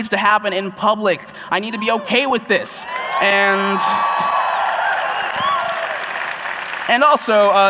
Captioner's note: cheers